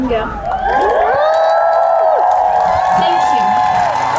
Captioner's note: wooooop!